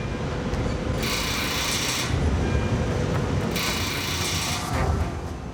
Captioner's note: tool whirrs